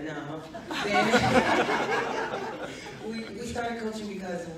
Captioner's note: audience laughs